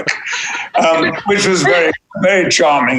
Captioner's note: laughing